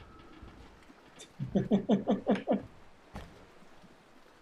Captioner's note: chuckles